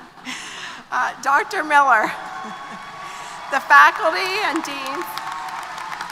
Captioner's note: brief laughter; applause & Cheers